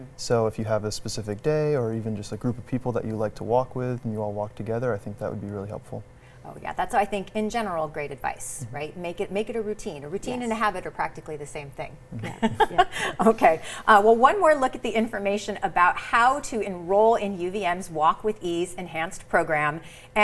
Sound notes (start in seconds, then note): 12.1 laughs